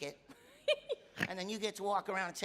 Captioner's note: laughing